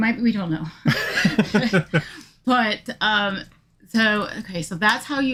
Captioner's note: laughing